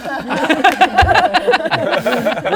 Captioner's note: distracted giggles